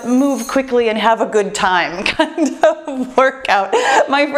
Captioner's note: laughs